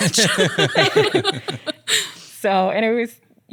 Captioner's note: laughs